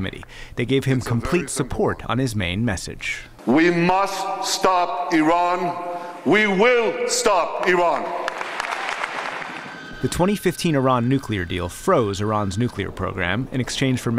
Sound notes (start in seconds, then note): 7.6 applause